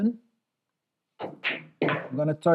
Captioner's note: balls clacking